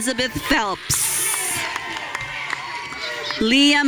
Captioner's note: audience cheering